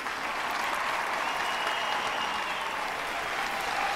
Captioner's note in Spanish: Aplausos; Gritos y exclamaciones; Silbidos